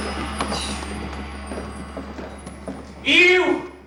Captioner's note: gong Sounds